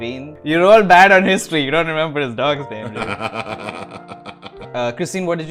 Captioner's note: laughter